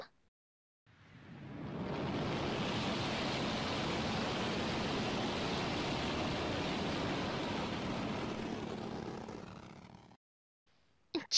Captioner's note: energy hums with sinister growls